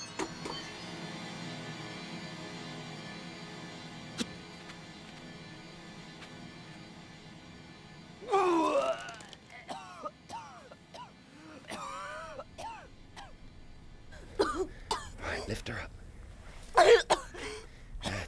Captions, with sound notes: [ Vomiting ] [ Coughing ] ALL RIGHT, LIFT HER UP.